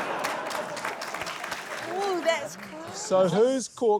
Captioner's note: laughter; applause